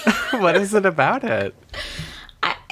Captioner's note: laughs